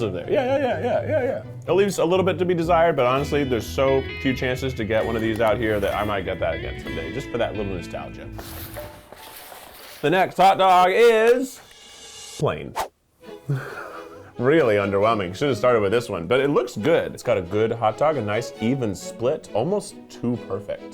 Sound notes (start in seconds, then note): 13.4 laughing